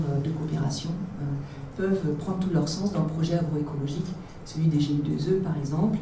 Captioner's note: French